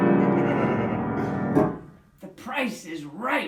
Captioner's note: dramatic piano music; laughing